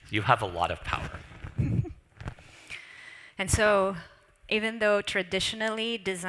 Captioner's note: laughs